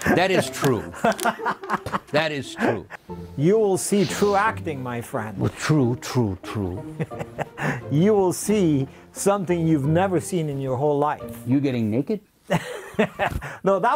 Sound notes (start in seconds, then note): 6.9 laughing; 12.5 laughing